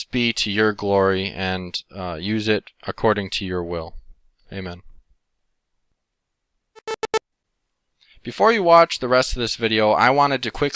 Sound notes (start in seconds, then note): 6.8 beeping